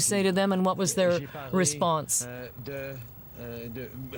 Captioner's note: speaking French